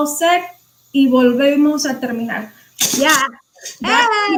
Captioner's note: speaking foreign language